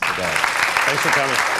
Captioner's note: applause